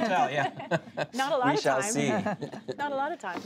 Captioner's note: laughter